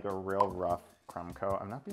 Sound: graphic pops

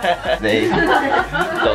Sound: laughs in Japaneseu

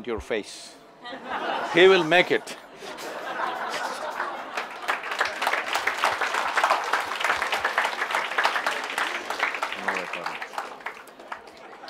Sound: laughter/Applause

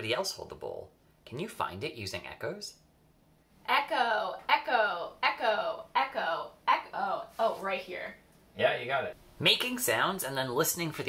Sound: girl saying, echo echo echo echo echo

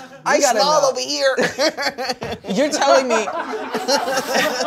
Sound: laughing

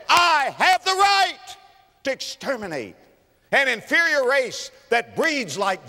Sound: clap

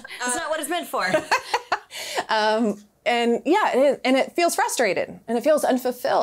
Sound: laughs; giggles

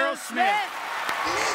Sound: applause

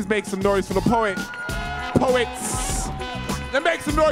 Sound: audience cheering

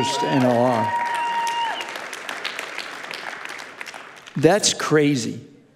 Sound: congregation cheering and applauding

